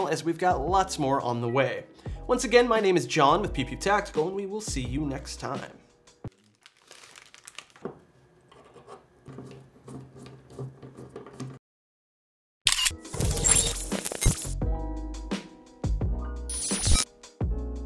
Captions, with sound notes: as we've got lots more on the way. Once again, my name is John with Pew Pew Tactical, we will see you next time. (plastic rustling) (camera shutter clicking) (beeping)